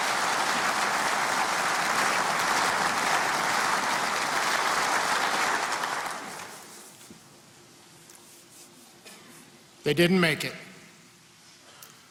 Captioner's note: applause